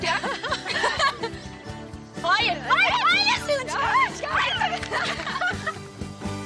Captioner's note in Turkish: Çığlık ve gülüşme sesleri duyulur